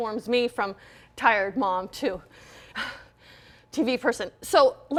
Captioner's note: exhaling